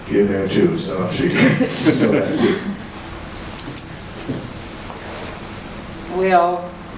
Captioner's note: laughing drowns out sounds